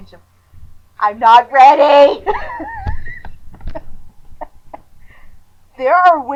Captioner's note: wheezing laughter